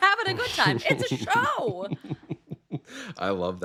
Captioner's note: chuckling